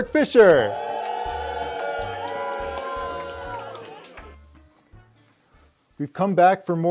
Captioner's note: strained applause, boos and hisses